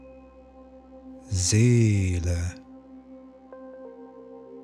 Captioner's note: german